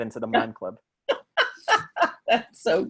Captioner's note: laughter